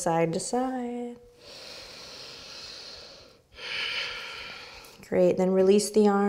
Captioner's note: inward and outward breath